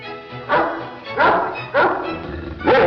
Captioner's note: dog barks